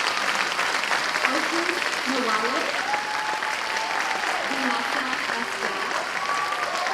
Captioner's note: audience applause; audience applause drowns out all other sounds